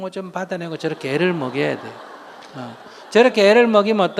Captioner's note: audience Laughter